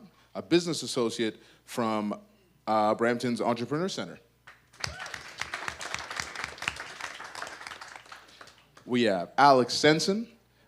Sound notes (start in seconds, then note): 4.7 audience applause